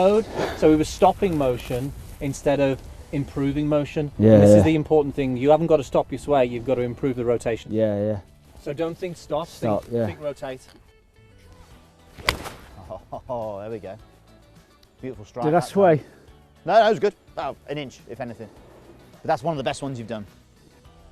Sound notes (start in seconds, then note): 12.1 golf ball cracking